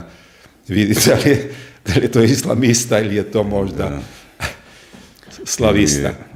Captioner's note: laughter